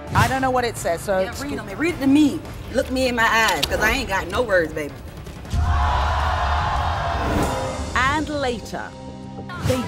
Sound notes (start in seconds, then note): 5.5 crowd yelling